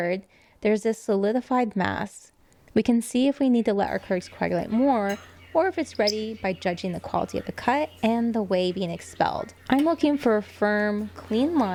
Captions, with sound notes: there's a solidified mass. We can see if we need to let our curds coagulate more or if it's ready by[chirps] judging the quality of the cut and the whey being expelled. I'm looking for a firm, clean line